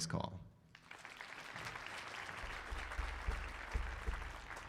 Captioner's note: audience applauding